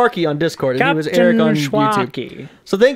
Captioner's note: pirate voice